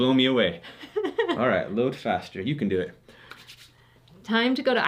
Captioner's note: laughs